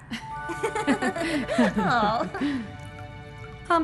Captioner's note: laughing